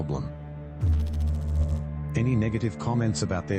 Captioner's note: electrical noise